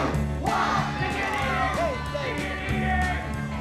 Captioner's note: shouting